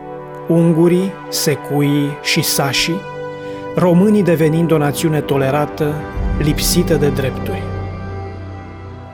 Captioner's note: German